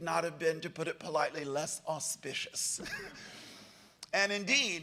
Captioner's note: laughs